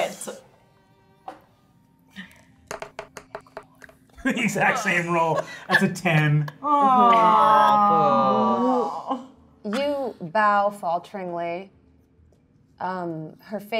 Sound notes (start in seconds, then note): 2.7 die rolling; 4.6 laughs